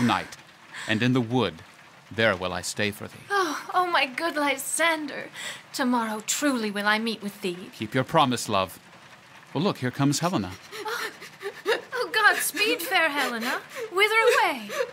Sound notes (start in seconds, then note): 10.7 sound of crying